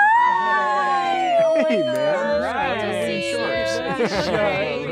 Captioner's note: overlapping greetings